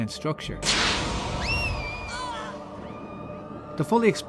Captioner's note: screaming children